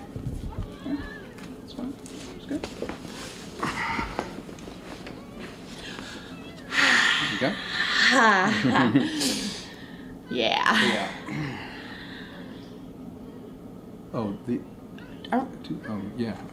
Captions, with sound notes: That's fine, that's good. (sighs) Here you go. (laughing) Yeah. Yeah. Oh, the, oh, yeah.